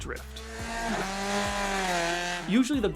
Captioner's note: buzzing car motor